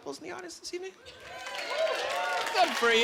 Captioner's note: clapping